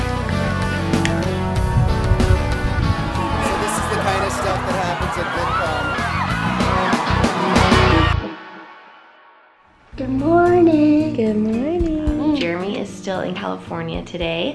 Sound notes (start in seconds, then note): 0.1 energetic music; 5.8 cheering